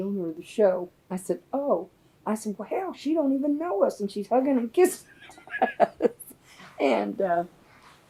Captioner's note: laughs